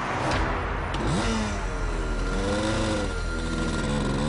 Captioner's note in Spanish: Ruido de la moto